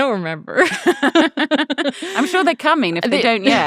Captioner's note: laughing